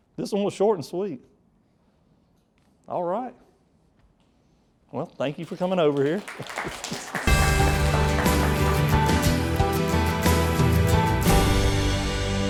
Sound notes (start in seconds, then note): 5.3 audience applauds; 7.2 upbeat music